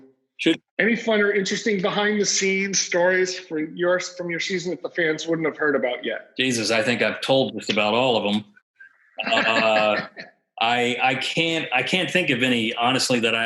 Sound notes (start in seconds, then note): 9.1 laughs